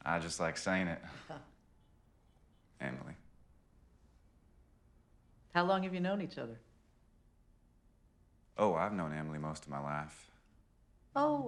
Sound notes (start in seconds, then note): none